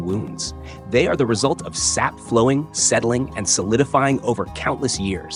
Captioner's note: sap flowing, settling, and solidifying